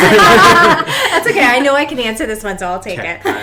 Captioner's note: laughing